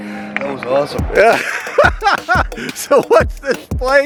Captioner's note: laughing